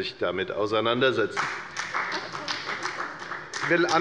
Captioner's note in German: Beifall bei der FDP